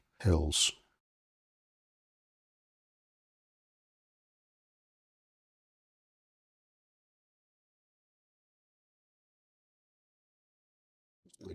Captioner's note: silence